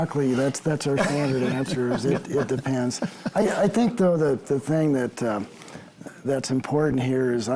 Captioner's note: laughter